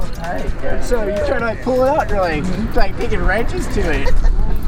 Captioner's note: laughing